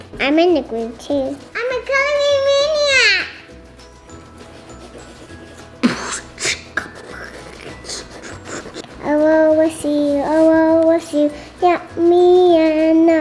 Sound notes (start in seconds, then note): 3.2 upbeat quirky music; 5.8 beat boxing